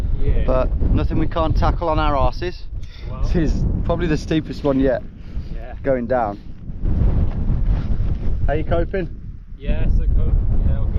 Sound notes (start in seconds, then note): 6.6 wind howling